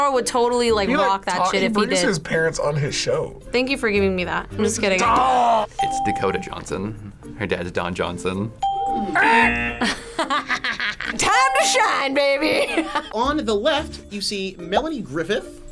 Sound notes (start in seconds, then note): 8.6 ding; 9.1 imitates buzzer and laughs